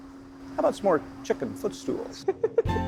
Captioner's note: laughing; laid-back music